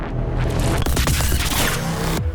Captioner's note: static crackles